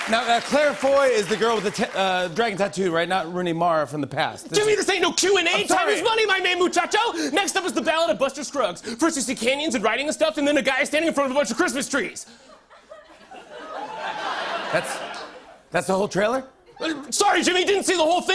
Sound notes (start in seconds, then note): 12.3 laughter